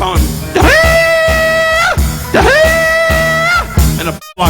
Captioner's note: Don imitating ram screaming